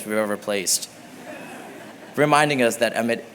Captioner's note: laughter